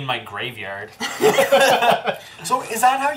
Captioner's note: all laugh